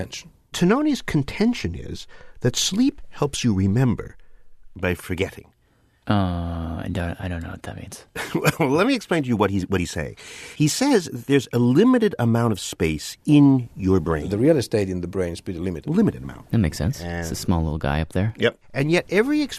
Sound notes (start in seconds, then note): 8.2 laughs